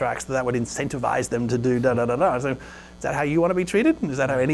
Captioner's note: playfully mumbles